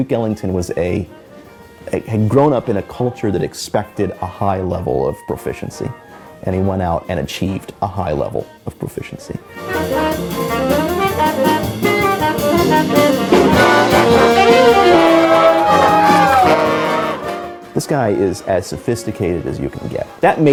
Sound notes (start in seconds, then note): 16.1 crowd applauds